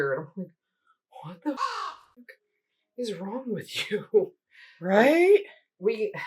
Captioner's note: caw